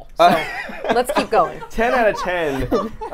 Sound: laughs

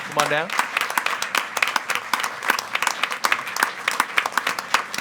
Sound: attendees applauding

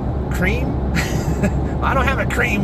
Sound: laughs

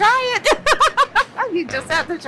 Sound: laughs

